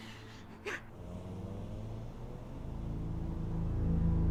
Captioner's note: sound of car driving